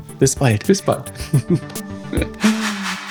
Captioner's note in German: lacht